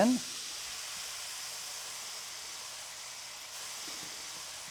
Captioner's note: sizzling